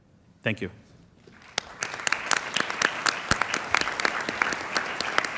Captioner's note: applause